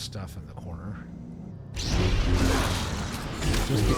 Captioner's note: gunshots